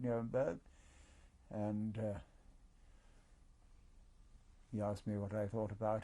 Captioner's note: pauses for 3 seconds